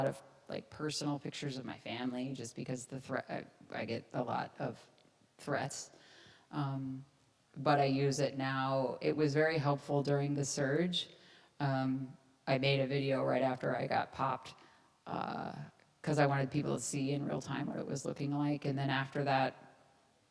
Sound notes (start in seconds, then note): none